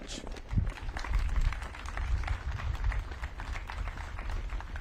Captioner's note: audience claps